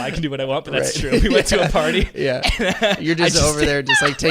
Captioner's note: laughing